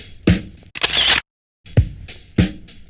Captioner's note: camera shutter